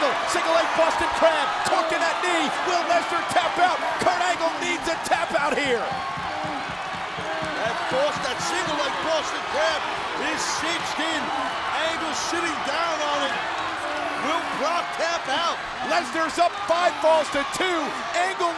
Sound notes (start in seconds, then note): 6.7 audience cheering and clapping